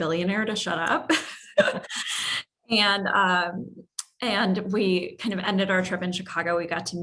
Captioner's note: laugh